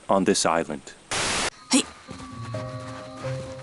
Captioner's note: grunting